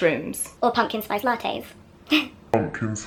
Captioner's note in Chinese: 哈哈